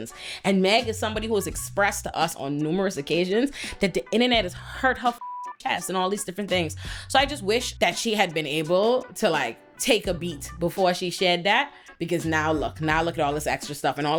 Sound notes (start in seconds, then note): 5.1 beep